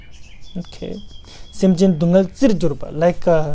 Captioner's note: tibetan